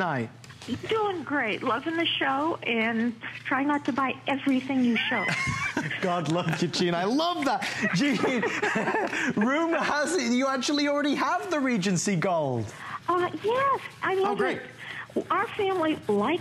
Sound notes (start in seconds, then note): 4.9 laughter